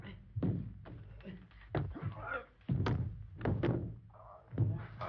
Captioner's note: grunting